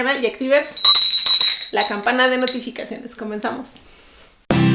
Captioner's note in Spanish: tin, tin, tin